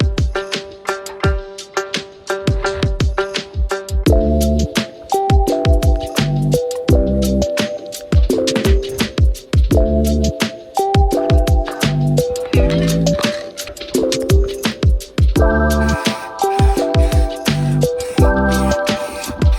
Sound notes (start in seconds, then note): 13.2 satisfying pop; 15.5 aerosol sounds